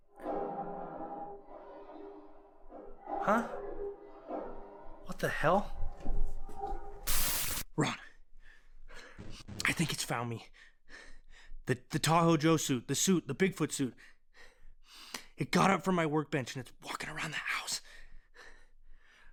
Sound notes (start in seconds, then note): 0.1 distant howl; 0.1 howling gets louder